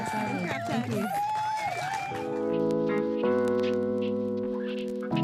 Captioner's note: cheering